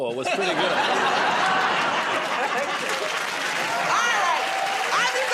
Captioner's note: laughter